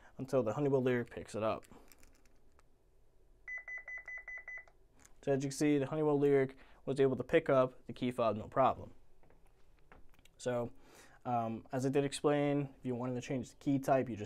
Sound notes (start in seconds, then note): 3.4 keypad beeps